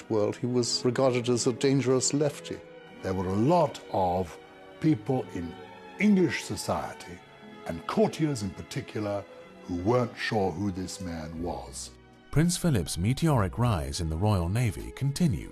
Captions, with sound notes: he was regarded as a dangerous lefty. - There were a lot of people in English society and courtiers, in particular, who weren't sure who this man was. - [Voiceover] Prince Philip's mediocre rise in the Royal Navy continued